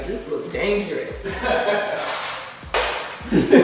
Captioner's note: laughing